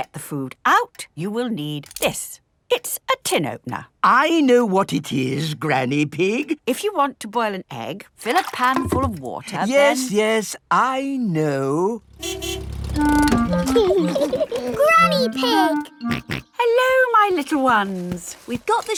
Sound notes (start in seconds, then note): 12.0 car honking; 13.5 laughing; 16.1 snorts